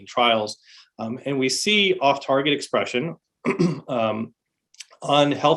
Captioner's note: clears throat